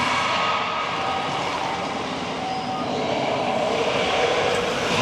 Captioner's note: dinosaurs roaring